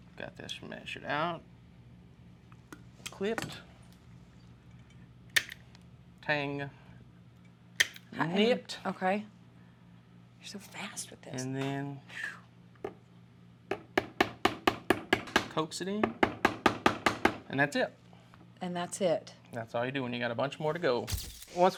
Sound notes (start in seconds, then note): 7.8 click; 13.1 tapping